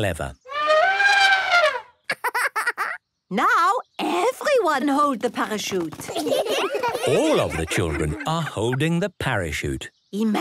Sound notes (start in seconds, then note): 0.2 laughing; 0.4 trumpeting; 6.0 laughter